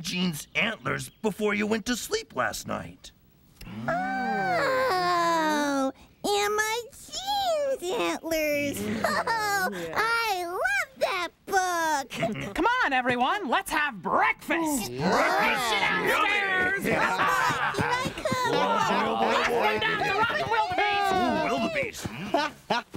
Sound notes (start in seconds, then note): 14.6 all talking excitedly; 21.5 laughing